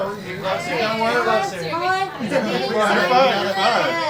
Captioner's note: all chatting